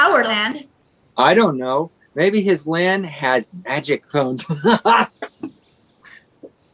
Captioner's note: laughs